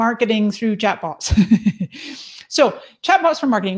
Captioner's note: laughs